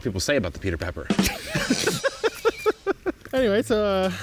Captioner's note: laughs